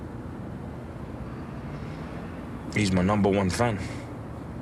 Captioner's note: none